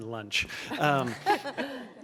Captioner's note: laughter